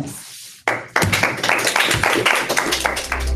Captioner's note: applause